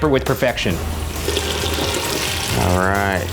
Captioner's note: slurping sound